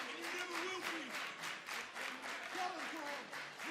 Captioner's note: crowd chatter